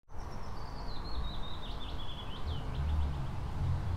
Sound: birds chirping

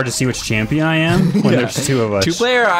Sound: laughs

